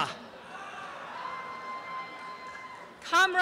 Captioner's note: applause and cheering